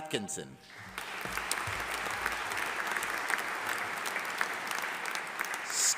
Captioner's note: audience applauding